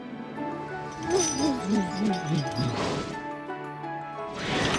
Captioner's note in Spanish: zumbido